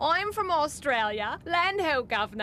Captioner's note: in Australian accent